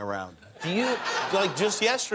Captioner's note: cheers and applause